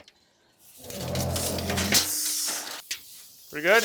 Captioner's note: windows rustling